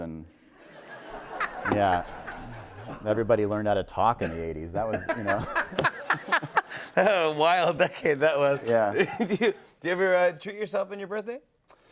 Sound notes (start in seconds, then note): 0.6 laughter; 4.7 laughter